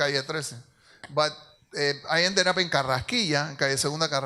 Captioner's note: speaks in Spanish